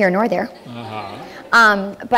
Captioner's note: laughter